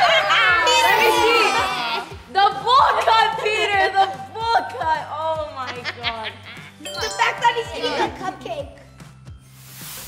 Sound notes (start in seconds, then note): 5.6 laughter; 6.8 ding